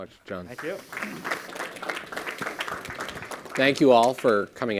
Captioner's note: audience applauding